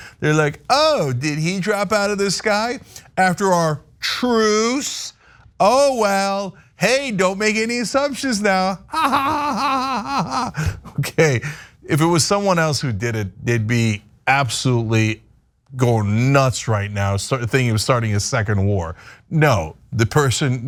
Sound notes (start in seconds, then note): 8.9 laugh